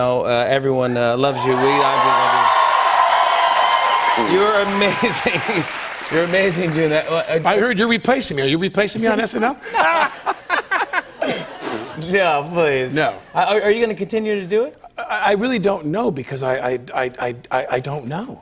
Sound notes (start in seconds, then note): 1.3 cheers and applause; 9.6 both laugh